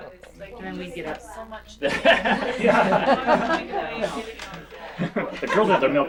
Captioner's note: crowd laughter